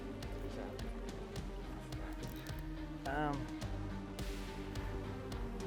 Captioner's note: fishing rod reeling; suspense music